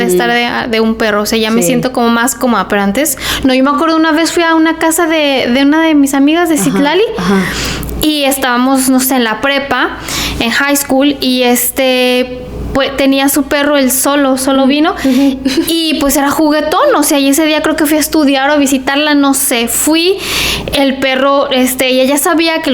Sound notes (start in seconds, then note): 7.1 sighs